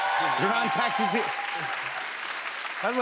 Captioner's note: cheers and applause